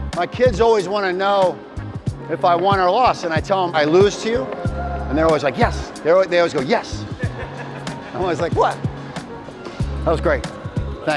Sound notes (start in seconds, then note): 7.0 laughs